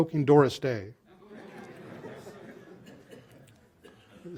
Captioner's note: laughter